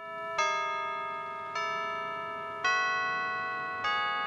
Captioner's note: bells chiming